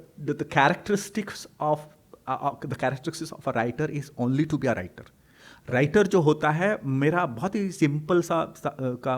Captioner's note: hindi